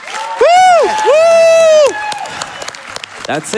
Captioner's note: applause